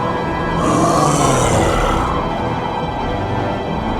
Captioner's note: beast grunts